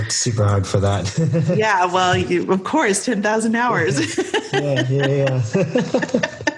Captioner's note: laughing